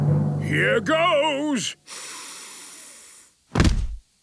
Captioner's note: dramatic drumming music; sniffs